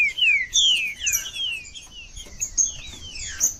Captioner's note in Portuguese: trinca ferro cantando